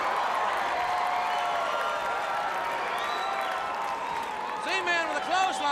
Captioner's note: crowd cheering